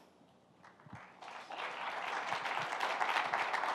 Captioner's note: applause